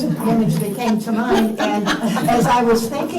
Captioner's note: laughter